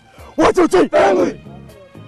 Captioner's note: yells